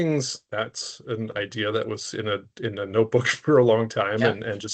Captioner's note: chuckling